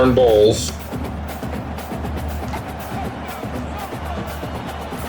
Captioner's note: crowd Noises